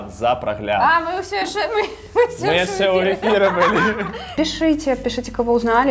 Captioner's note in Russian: смех